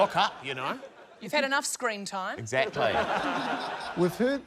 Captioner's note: laughter; laughter